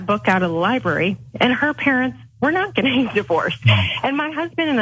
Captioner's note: laugh